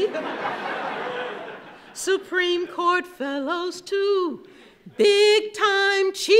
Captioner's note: laughing